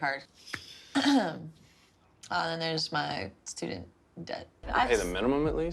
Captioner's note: clears throat